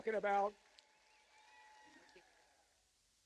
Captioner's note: cheers and applause